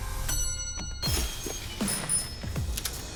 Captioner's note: bell rings; bicycle bell rings; bell rings; gun clicks